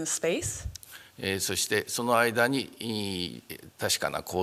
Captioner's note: speaking japanese